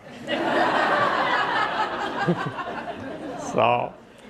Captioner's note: audience laughing